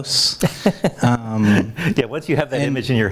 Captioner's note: chuckles